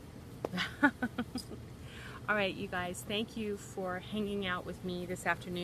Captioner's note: laughs